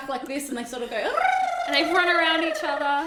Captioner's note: imitates penguins